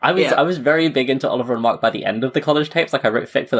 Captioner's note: laughs